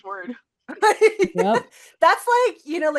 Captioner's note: laugh